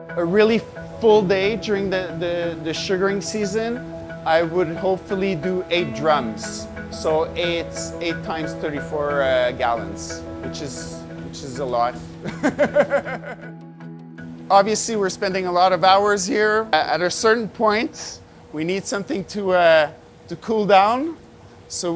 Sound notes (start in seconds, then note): 12.0 laughing